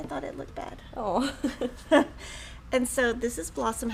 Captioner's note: women chuckling